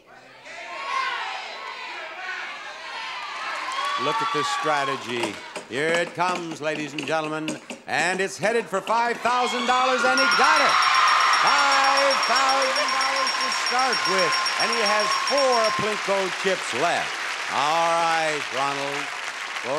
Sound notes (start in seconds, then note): 10.0 sound effect ringing; 11.1 audience cheering